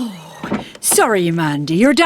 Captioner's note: sigh!